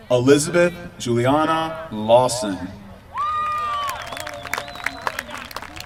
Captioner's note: applause